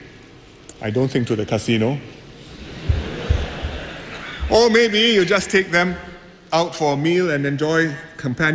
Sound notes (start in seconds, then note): 2.4 laughter